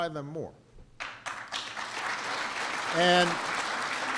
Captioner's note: applause